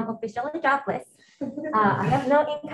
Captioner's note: attendees laughing